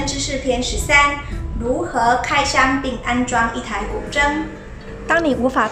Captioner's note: with motorbike zoom~ sound